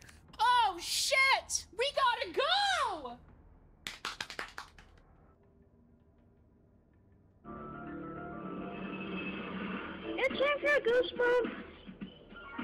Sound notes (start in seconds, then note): 3.8 pitter Pattering Away; 10.1 low Quality Child’s Voice